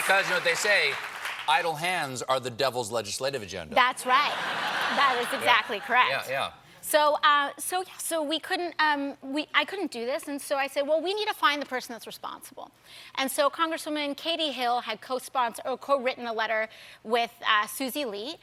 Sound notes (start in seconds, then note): 4.1 laughter